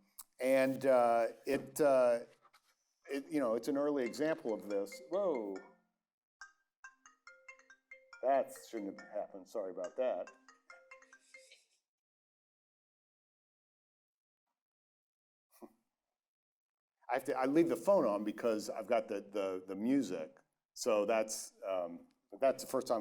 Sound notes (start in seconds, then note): 4.0 cell phone ringing